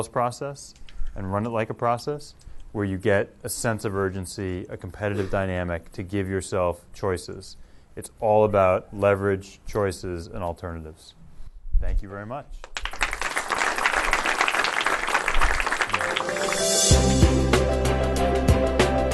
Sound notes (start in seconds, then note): 12.6 applause